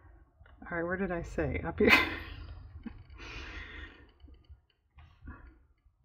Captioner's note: laughs